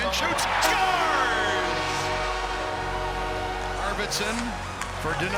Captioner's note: crowd cheering